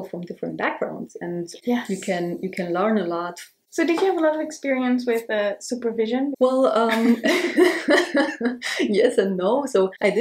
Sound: both laugh

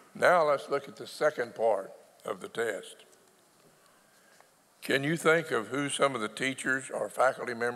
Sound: none

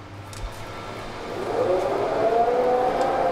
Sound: machine whirring

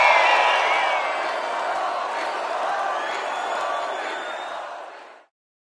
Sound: crowd cheering; crowd

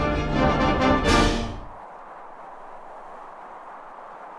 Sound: wind

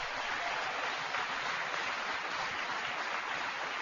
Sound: applause

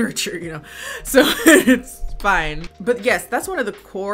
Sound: laughs

